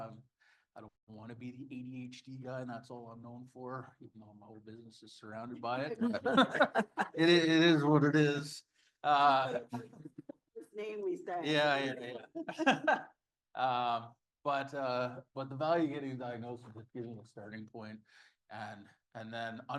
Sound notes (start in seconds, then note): 10.6 chatter